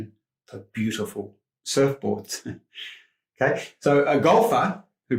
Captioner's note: chuckles